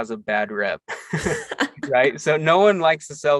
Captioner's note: both laugh